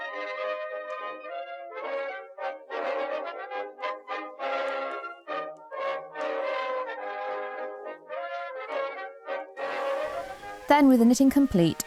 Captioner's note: water runs